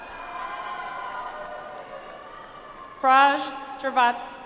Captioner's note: audience applauds